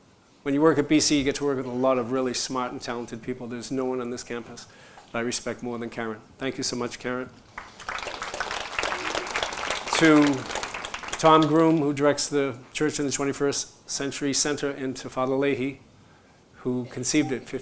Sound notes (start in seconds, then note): 7.4 applause